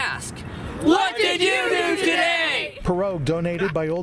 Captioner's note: all, shouting